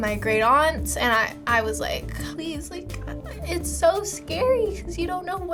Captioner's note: choked up